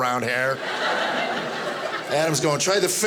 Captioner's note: audience laughing